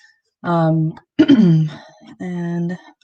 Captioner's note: clears throat